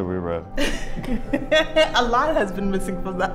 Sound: laughs

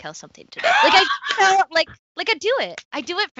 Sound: laughs

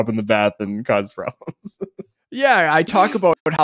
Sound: laughing

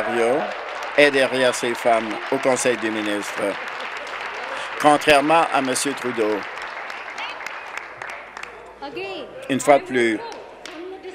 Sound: cheering; some Applause

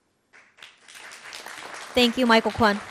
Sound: audience clapping

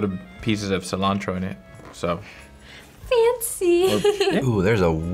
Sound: chuckles

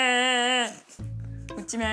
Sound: pffft

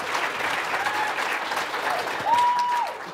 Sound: applause

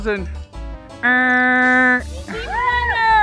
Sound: buzz sound; cheering

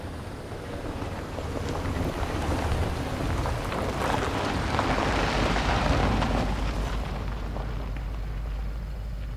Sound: sound of a car pulling up

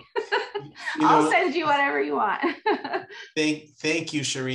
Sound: laughs

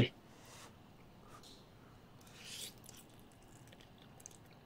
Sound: blowing sound; slurping sound; champing sound

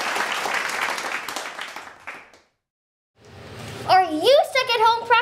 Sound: applause

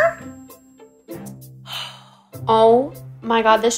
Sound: angry sigh

